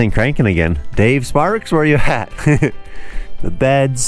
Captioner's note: laughing